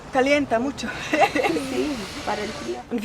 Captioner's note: laughter